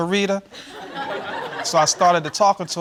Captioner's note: audience laughing